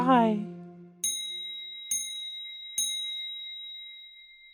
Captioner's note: dinging